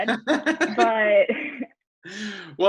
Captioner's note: laughing loudly